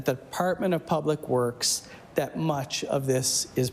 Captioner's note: none